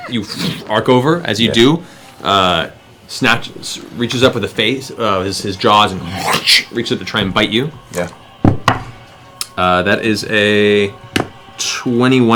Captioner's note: roar, unhinged laughter; snarl